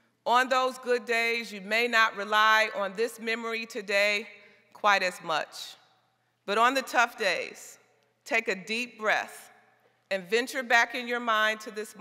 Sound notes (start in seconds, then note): none